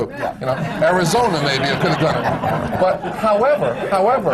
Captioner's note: laughter